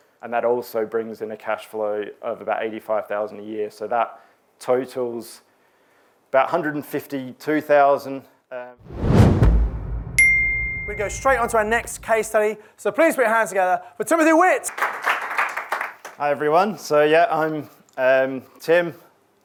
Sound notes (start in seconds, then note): 8.8 page whooshes; 10.2 ringer chimes; 14.6 audience clapping